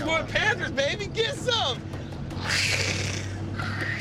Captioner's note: roars weakly; roars